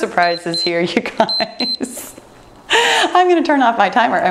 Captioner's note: timer beeps; laughing